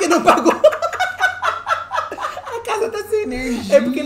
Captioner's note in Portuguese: gargalhada